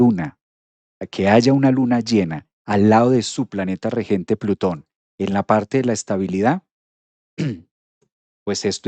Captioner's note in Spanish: carraspeo